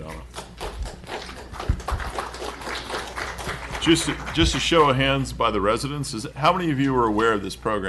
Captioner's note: applause